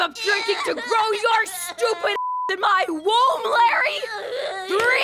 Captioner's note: beeping